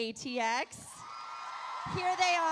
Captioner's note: audience cheering